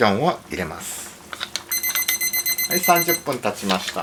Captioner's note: pip-pip-pip-pip-pip